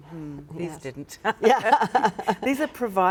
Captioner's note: laughing